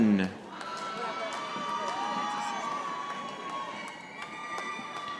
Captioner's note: audience applauding